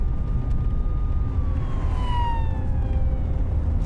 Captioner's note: siren wailing